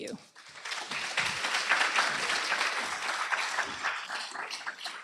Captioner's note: applause